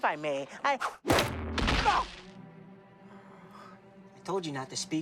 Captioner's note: cane thudding; Marvin groaning